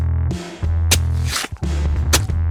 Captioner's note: the sound of a knife strike